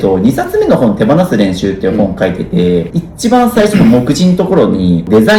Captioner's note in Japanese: 咳払い